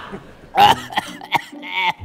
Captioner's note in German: Husten